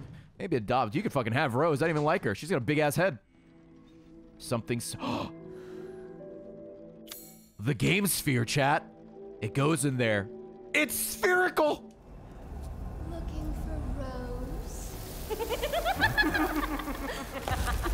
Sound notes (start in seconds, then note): 5.0 gasps